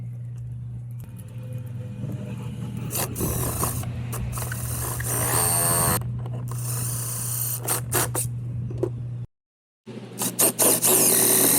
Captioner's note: machine working